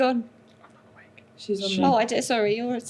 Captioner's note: whispers